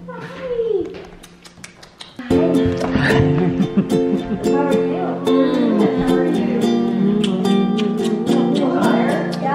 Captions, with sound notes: (kisses) Hi. (laughing) How are you? (kisses)